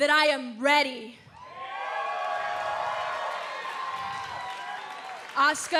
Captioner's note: cheers & applause